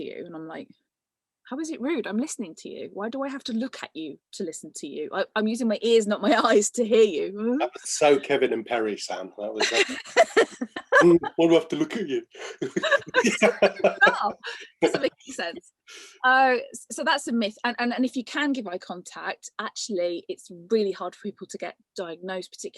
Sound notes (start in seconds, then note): 10.8 mockingly; 12.5 both laughing